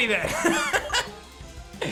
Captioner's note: chuckles